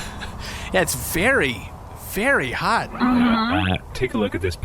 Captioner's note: laughs